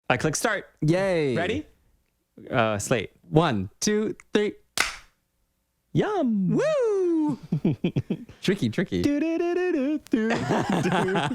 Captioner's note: clap